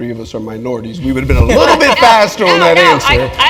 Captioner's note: laugh